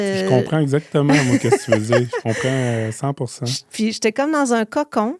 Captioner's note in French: rires